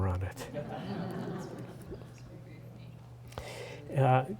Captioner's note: laughter